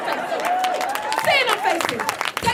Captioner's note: audience applauding